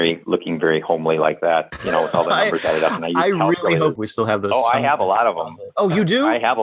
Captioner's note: laughter